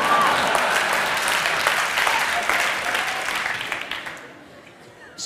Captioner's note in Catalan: Aplaudiments